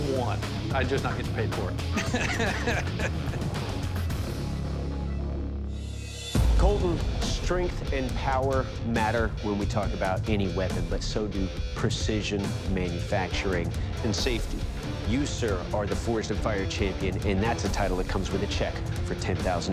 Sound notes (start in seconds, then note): 1.9 laughs